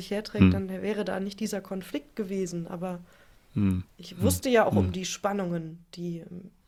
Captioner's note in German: räuspern